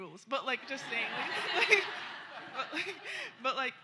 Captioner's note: laughter